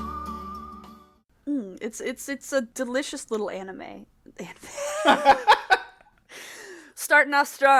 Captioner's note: breaks into laughter